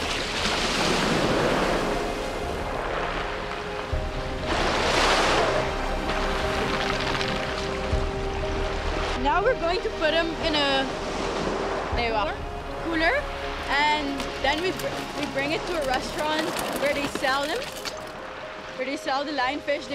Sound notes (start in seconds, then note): 0.8 waves crashing; 4.5 water splashing